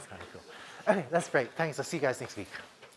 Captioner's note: laughter